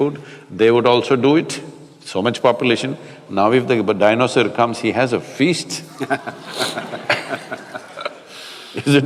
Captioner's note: laughter